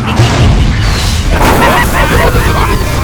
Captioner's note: explosion